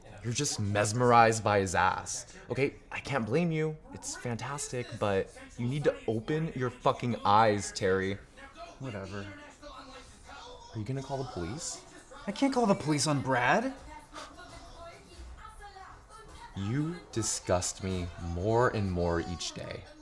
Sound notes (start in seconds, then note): 14.2 Alan scoffs